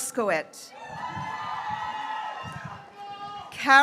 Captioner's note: graduates cheering